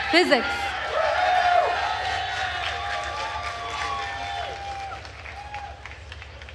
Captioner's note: attendees cheering and applauding